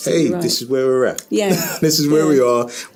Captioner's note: laughing